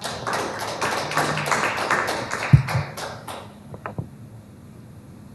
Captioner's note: applause